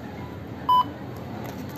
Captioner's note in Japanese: 商品のバーコードスキャン音